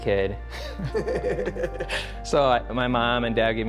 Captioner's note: both laugh